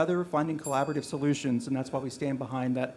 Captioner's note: bell dings